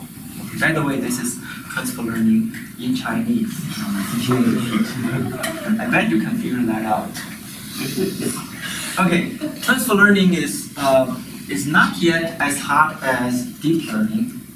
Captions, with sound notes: By the way, this is transfer learning in Chinese. (audience laughs) So enjoy that, I bet you can figure that out. Okay, transfer learning is not yet as hot as deep learning.